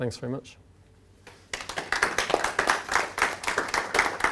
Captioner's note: applause